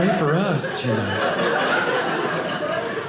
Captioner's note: audience laughing